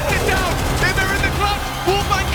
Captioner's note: gun firing